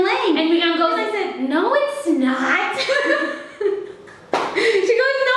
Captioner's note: both laughing